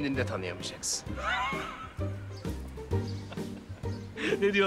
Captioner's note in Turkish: Gülüyor